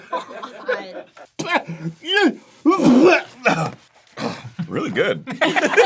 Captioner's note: spits and makes struggling sounds; everyone laughs